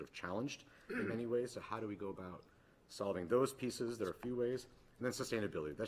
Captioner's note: clears throat